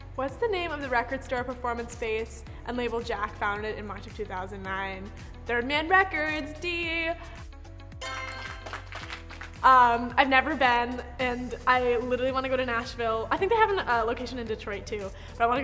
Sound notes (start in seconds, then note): 8.2 applauding